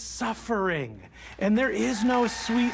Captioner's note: audience cheering, applauding